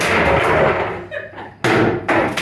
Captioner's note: laugh